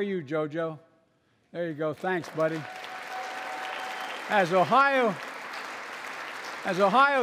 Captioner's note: applause